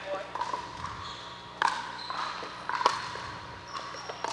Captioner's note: ball bouncing